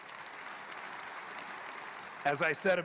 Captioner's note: applause